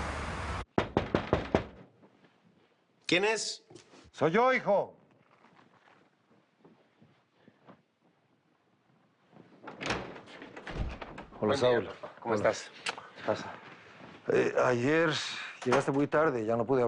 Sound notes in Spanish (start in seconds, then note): 0.7 Toques en la puerta; 9.5 Sonido al abrir la puerta